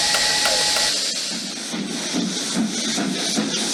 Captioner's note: the sound of a train whistle; the sound of a steam engine